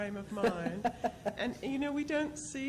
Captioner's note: laughing